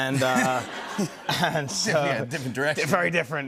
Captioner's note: laughter